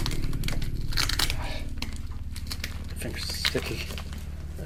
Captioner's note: tape tearing